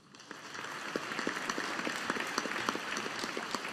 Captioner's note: audience applauding